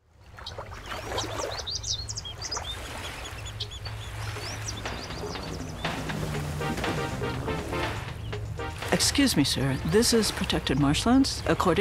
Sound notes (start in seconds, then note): 0.1 birds chirping; 0.1 water trickling; 3.9 boat engine revving; 4.2 upbeat music